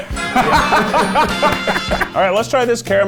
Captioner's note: laughing